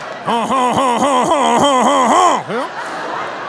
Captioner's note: audience laughing; imitating French person laughing; audience laughing